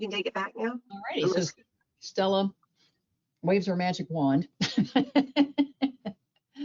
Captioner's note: laughs